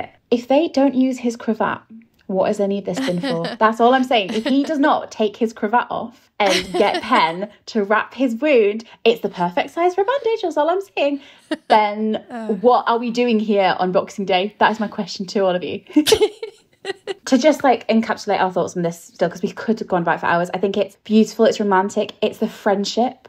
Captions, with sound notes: If they don't use his cravat, what does any of this for? That's all I'm saying. If he does not take his cravat off and get Pen to wrap his wound. It's the perfect size for a bandage, that's all I'm saying. Then what are we doing here on Boxing Day? That is my question to all of you. (laughing) To just like encapsulate our thoughts on this still, because we could have gone back for hours. I think it's beautiful, it's romantic, it's the friendship.